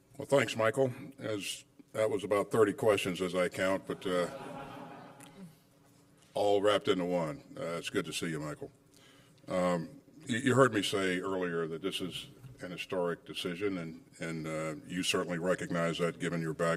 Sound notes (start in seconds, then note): 4.0 laughter